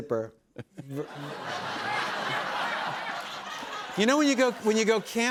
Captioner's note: laughter